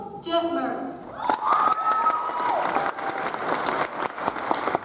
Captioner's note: audience applauds